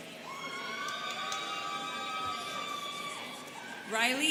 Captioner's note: students cheering